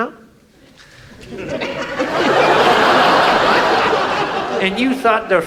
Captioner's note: audience laughs